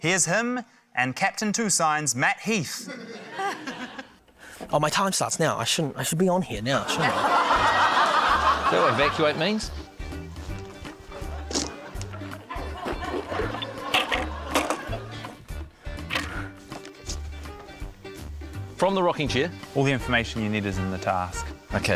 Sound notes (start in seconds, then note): 2.8 laughter; 6.8 laughter; 11.3 light quirky music